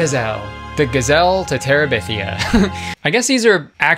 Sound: giggles

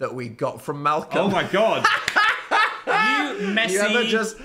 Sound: laughs

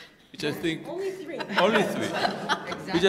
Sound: laughter

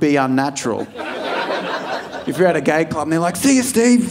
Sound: audience laughing

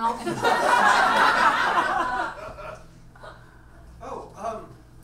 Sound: audience laughs

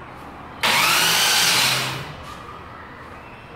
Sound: motor revving

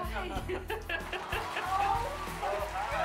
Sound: laughter

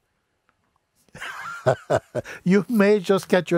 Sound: Mooji laughs

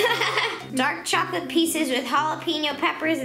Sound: laughs

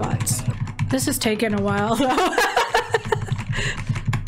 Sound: laughs

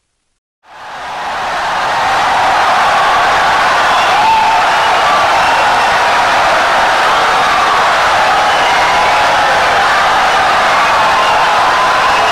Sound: wild applause and cheering for 17 seconds

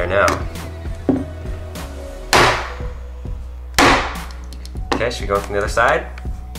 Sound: hammering

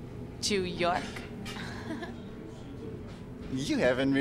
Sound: laughs

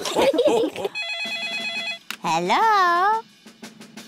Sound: all laugh; phone rings

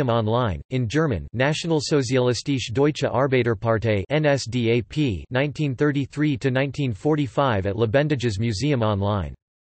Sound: in German

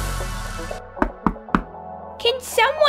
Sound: knock, Knock, Knock!

